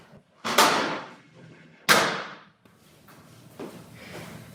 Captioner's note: chair clatters